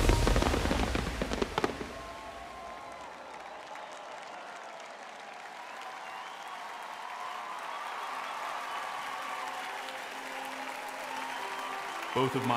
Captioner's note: applause